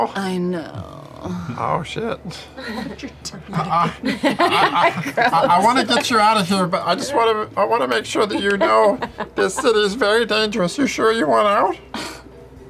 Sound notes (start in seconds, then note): 3.5 laughter